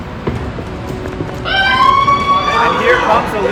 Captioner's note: cheering